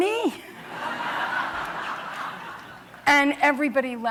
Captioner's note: laughter